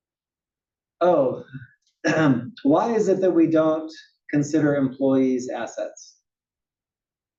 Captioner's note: cough